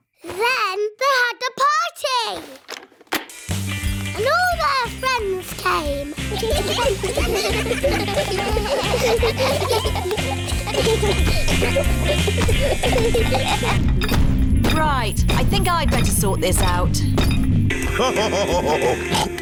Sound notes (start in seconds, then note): 6.5 giggling; 14.0 feet stamping; 17.8 laughs / honks